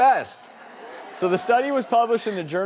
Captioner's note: audience laughing